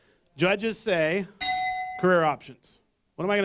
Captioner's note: bell